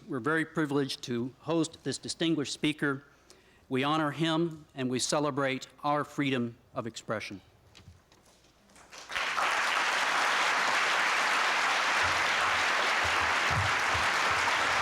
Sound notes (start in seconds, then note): 8.7 applause